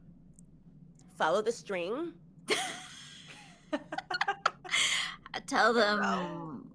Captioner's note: both laughing